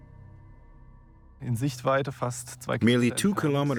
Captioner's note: speaking German